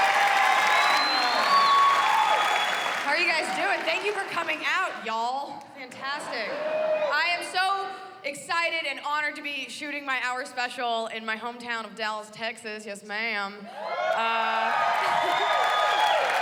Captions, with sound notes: OH. HOW ARE YOU GUYS DOING? THANK YOU FOR COMING OUT, Y'ALL. FANTASTIC. I AM SO EXCITED AND HONORED TO BE SHOOTING MY HOUR SPECIAL IN MY HOMETOWN OF DALLAS, TEXAS. YES, MA'AM. [cheers and applause] [laughs]